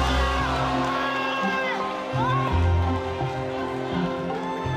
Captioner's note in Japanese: 背景で歓喜 の声